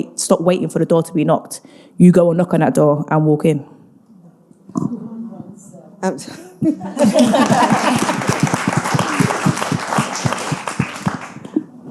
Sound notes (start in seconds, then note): 7.0 audience applauding